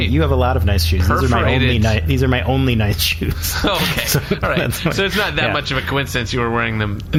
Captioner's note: laughing